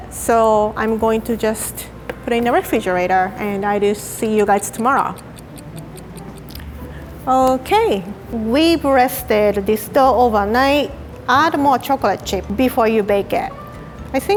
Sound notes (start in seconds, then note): 4.3 clock ticking